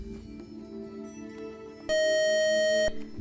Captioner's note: buzzer